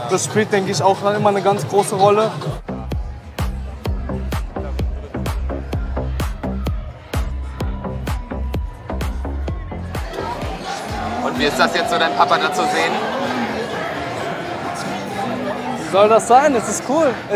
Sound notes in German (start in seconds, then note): 2.5 Treibende Technomusik; 13.0 Stimmengewirr